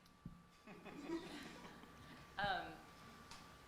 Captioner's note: laughter